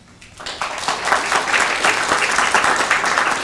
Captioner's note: applause